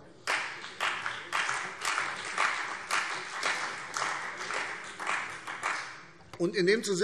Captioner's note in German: Beifall CDU und BÜNDNIS 90/DIE GRÜNEN